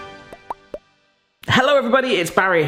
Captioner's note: upbeat music; logo popping